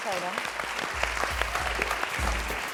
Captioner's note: applause; upbeat music